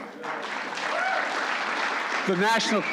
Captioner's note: applause